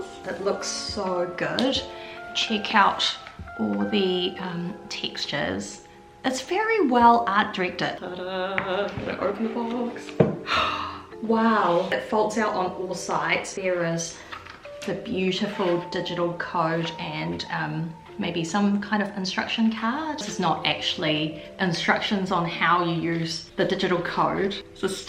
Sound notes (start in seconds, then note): 10.5 gasp